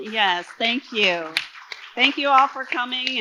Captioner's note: audience applauding